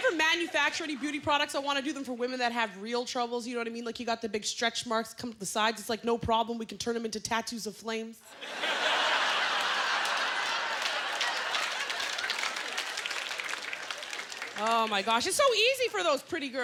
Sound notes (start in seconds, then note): 8.3 laughter; 9.0 applause